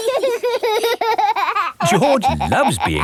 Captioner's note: laughing